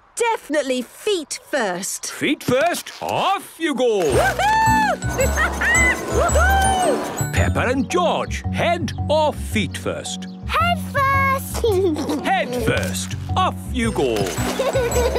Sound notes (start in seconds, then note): 4.1 laughing; 11.6 giggles